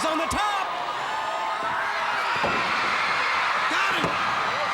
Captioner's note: crowd cheering